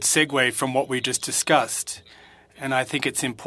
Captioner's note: speaking French